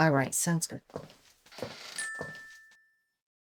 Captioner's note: feet shuffling; phone beeping